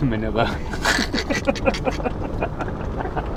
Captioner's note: chuckles